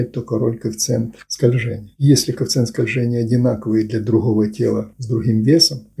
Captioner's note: friction